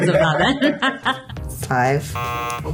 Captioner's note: laughs; buzzer